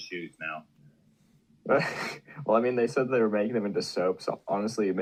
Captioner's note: laughs